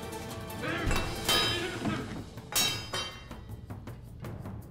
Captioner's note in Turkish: Kılıç düşme sesi